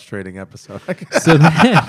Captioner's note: laughter